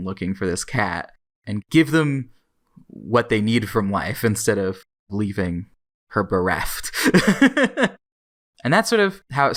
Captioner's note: laughs